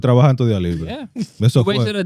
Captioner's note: speaking In Foreign Language